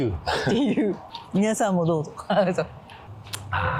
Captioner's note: laughs